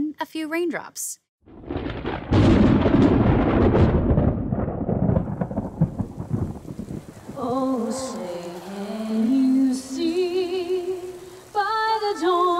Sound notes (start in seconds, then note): 2.6 thunder clap; 4.3 rain sounds; 6.1 sings